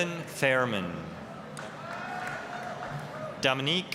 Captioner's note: applause, cheering